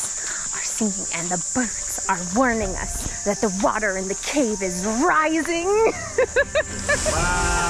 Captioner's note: laughs